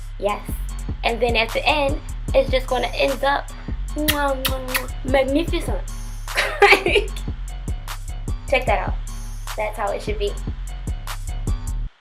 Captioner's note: muah